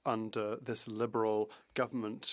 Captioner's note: speaking French